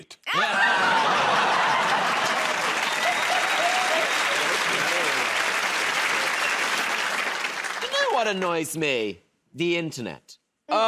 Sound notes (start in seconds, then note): 0.2 laughter; 3.9 cheers and applause